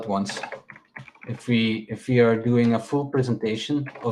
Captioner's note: keyboard clacking